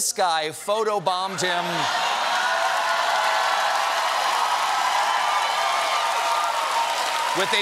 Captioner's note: cheers and applause